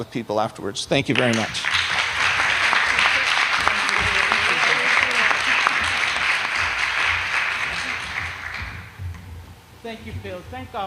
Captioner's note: applause